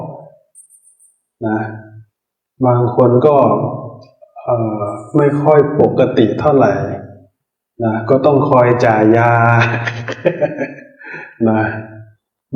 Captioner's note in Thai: เสียงหัวเราะ